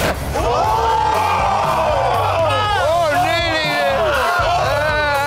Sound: crowd shrieks

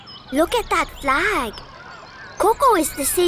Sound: sounds of kids playing

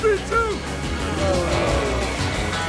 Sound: entourage groans

